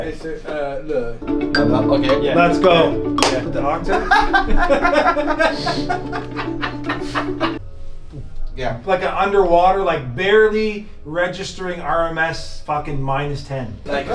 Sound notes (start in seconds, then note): 3.9 laughs; 7.5 humming